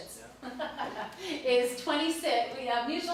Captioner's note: laughs